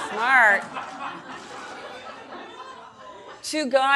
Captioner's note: audience laughing